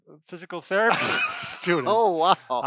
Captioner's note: laughs